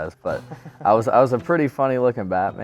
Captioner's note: laughs